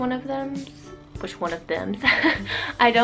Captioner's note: embarrassed chuckle